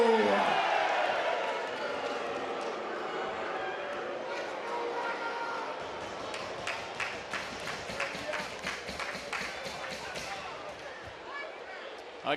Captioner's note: audience cheering